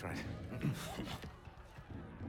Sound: laugh

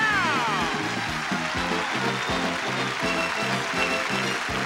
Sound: audience clapping

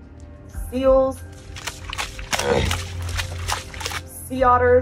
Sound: background music; splashing noise of seal galumphing; sea lion vocalization in background

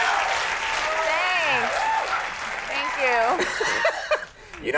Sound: Conan laughing

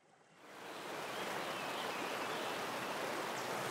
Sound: water rushing

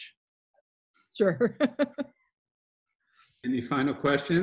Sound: laughs

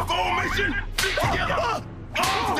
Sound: screaming In Pain

